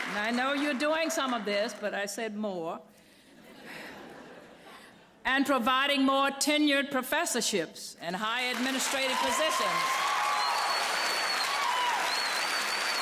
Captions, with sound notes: I know you're doing some of this, but I said more. [LAUGHTER] And providing more tenured professorships and higher administrative positions. [APPLAUSE AND CHEERING]